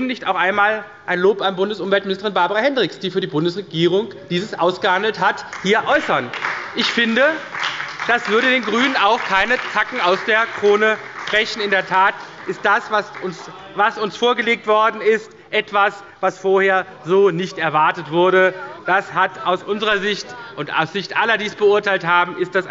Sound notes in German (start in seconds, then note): 5.8 Beifall bei der SPD